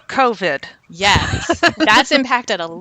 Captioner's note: laughs